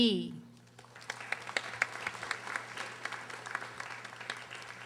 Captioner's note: audience applauding